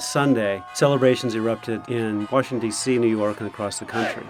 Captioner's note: crowd celebration